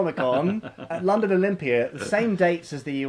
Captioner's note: laughing